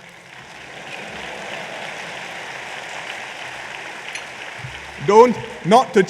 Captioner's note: applause